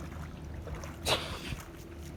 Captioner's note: sneezes